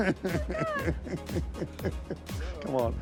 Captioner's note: laughing